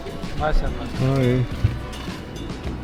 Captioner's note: shopkeeper speaks faintly